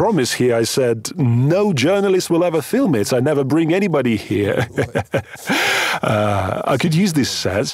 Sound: laughs

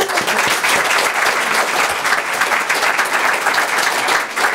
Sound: audience applauds; overlapping chattering

